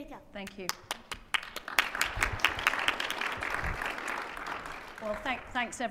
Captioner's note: audience applauding